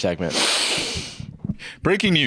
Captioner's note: inhales deeply